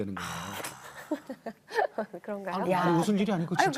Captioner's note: laughter